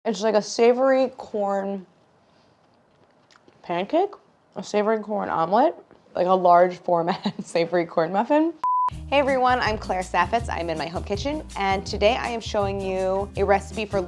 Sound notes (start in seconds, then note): 8.1 laughs; 8.6 beep